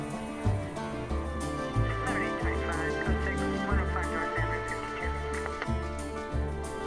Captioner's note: police radio chatter